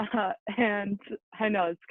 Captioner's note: laughing